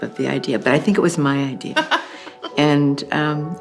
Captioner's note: laughs